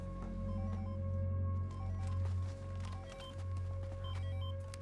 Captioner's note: cell phone ringing